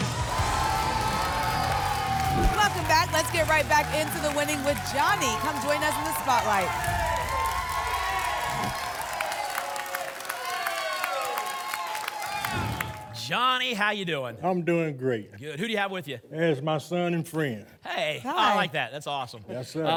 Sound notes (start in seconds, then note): 0.1 applause and cheering; 7.0 applause and cheering; 8.6 whoosh; 9.6 applause and cheering